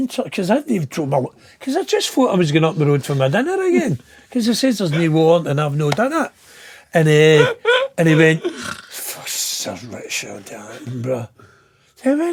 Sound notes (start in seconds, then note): 7.0 laughing